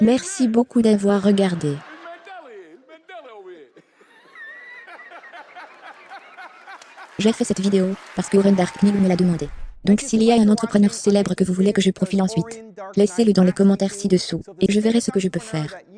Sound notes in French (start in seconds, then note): 3.9 en riant; 5.1 applaudissements; 7.6 L'audience applaudit; 9.4 whooshing